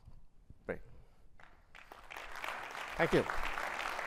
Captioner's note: audience clapping